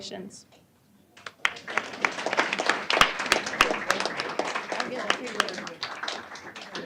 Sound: applause

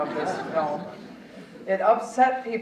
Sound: audience chuckling

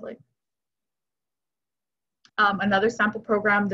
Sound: silence

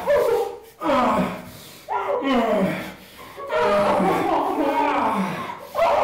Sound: Linda sobs hysterically; grunts

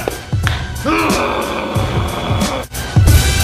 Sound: grunts

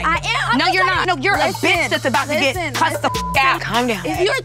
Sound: beep

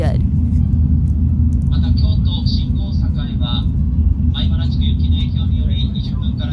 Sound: announcer speaking in Japanese

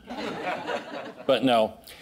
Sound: audience laughing

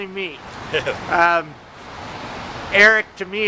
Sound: laughs

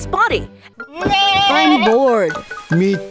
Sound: bleating; groaning

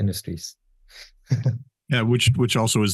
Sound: chuckles

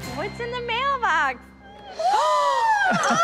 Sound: gasping and laughter

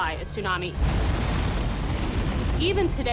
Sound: water crashing

